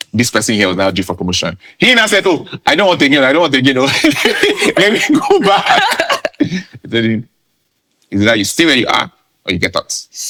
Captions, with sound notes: This person here was now due for promotion. He now said, Oh, I don't want again, I don't want again, let me go back. [laughing] They told him, It’s either you stay where you are or you get out.